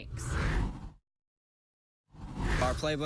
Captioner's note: air whooshes